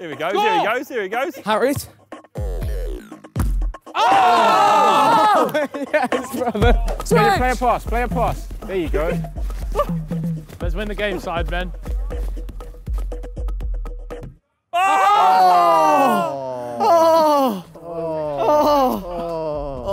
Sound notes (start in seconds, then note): 4.1 group In Unison; 6.2 players clamouring